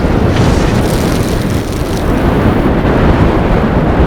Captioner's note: blizzard sounds